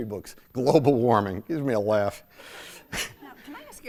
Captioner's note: chuckling